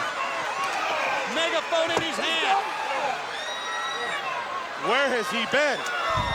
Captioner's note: crowd cheering